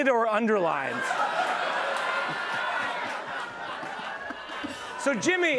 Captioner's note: laughter